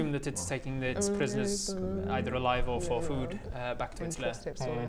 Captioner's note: expert navigator muttering